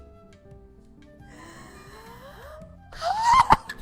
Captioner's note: gasps; giggles